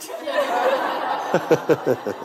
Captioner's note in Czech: smích